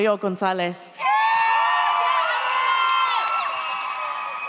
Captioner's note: audience cheers